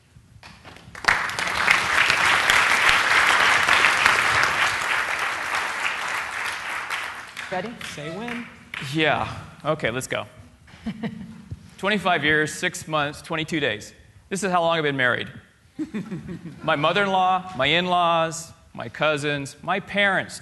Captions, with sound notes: [APPLAUSE] Ready? Say when. Yeah. OK, let's go. 25 years, six months, 22 days. This is how long I've been married. My mother-in-law, my in-laws, my cousins, my parents